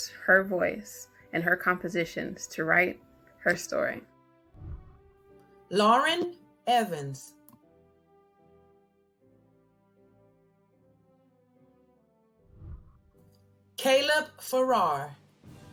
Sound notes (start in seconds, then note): 4.5 whooshing; 8.4 celebratory music